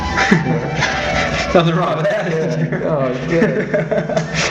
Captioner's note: laughing